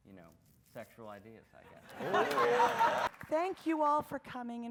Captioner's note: audience laughs